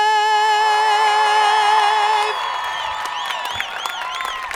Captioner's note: audience cheering; audience applauding